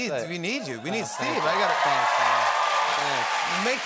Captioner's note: cheering